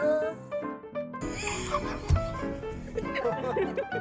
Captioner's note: laughter; jaunty music; juanty music